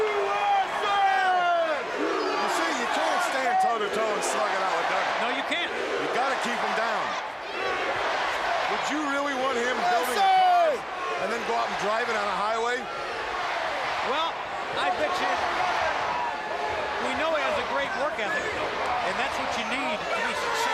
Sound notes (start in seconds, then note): 0.2 crowd chatter; 3.2 crowd cheering